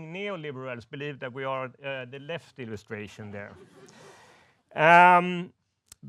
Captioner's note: woman laughs